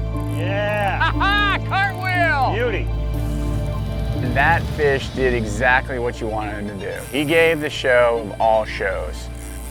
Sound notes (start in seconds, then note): 0.7 laughs